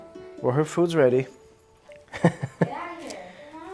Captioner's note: laughs